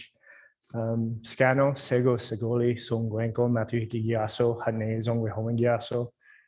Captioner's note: speaking foreign language